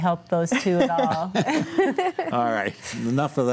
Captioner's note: group laughs